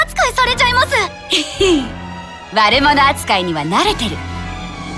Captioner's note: giggle